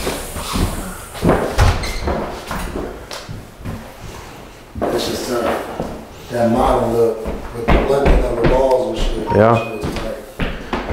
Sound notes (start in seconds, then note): 5.2 distant chatting